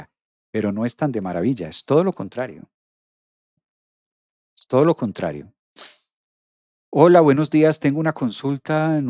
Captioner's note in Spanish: resoplido